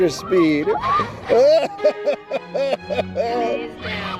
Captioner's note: laughing